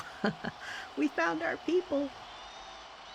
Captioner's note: chuckles